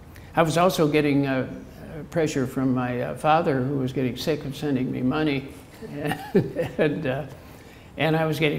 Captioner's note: chuckle